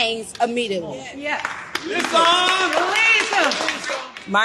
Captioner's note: crowd cheers